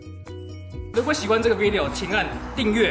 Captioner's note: Mandarin